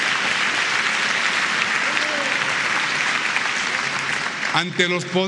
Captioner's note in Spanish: aplausos